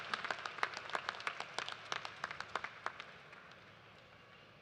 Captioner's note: applause